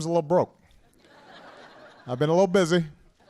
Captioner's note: laughter